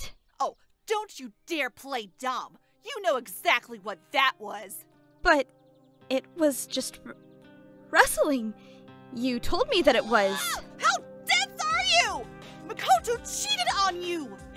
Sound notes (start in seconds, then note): 9.9 SEKAI screams